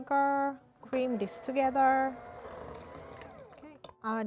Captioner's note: mixer whirring